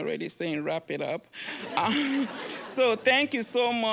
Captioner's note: audience laughing